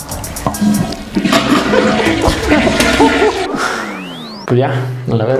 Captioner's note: toilet sounds